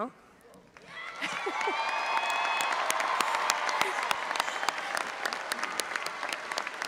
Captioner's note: audience applauding and cheering